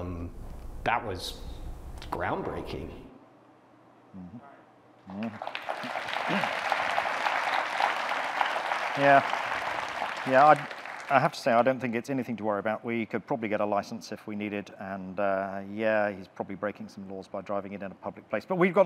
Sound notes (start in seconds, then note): 5.1 audience clapping